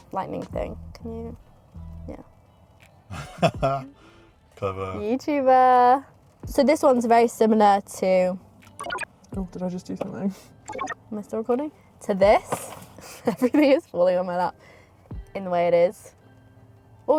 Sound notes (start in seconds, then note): 3.1 laughs